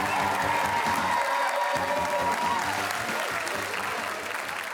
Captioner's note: cheerin